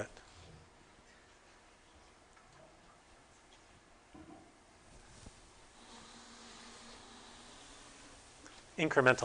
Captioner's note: podium shuffling